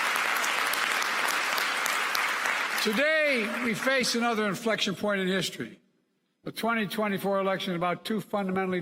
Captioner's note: applause